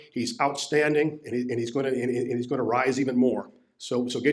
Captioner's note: none